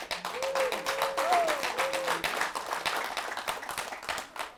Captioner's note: applause